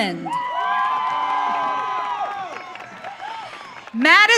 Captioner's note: audience cheering